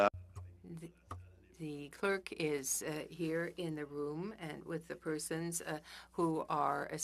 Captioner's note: speaking French